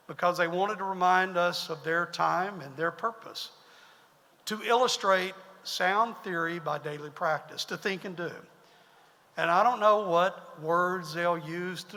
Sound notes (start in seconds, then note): none